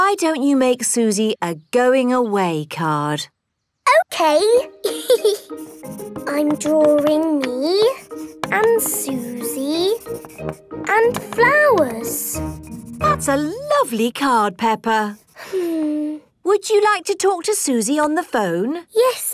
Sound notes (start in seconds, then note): 4.8 giggles; 15.3 peppa sighs